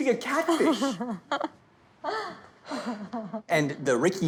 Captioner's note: laughing